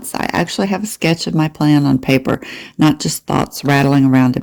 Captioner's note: none